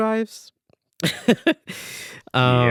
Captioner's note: laughs